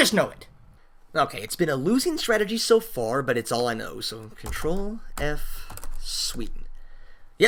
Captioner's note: typing